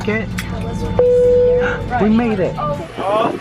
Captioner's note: airplane dinging sound